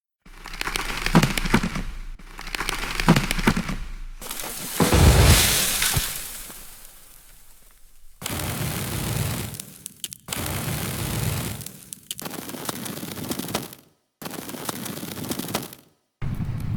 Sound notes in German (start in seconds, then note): 0.3 fallender Baum; 9.5 Brenngeräusch